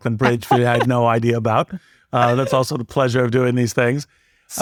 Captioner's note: laugh